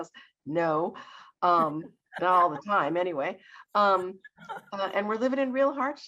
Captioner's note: laughs